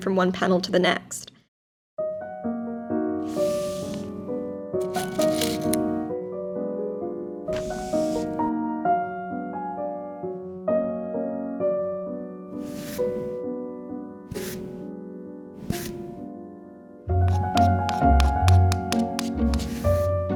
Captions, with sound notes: from one panel to the next. (sophisticated piano music) (paper rustles) (light metallic rattling) (light rubbing of fabric)